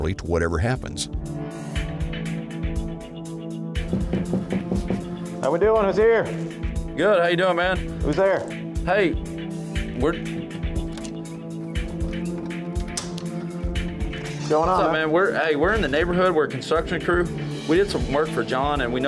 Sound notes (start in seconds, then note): 3.8 knocking